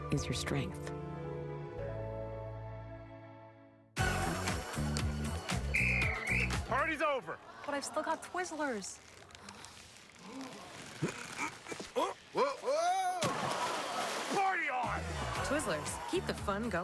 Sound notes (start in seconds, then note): 5.4 whistles